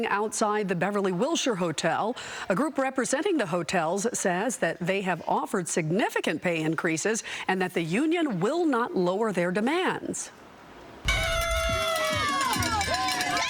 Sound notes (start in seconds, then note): 4.8 shouting